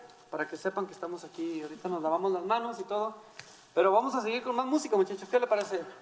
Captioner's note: speaking in foreign language